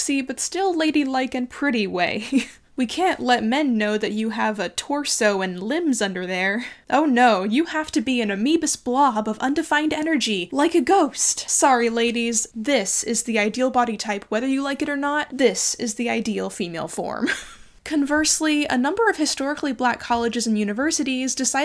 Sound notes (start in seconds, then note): 17.2 chuckles